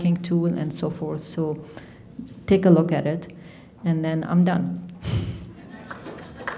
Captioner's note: chuckles; audience applauding